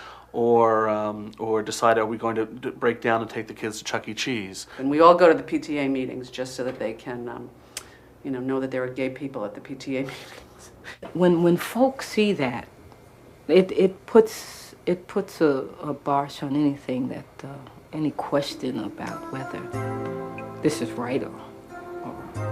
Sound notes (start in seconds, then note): 10.7 laughs